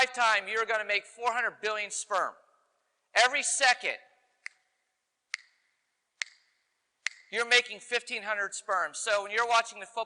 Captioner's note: click